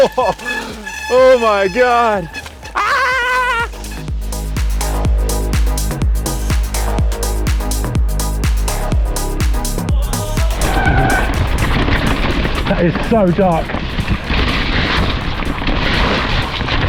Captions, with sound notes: (laughing) Oh my god, ah! (cool electronic music) (thudding) - That is so dark.